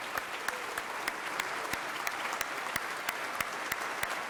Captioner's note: everyone clapping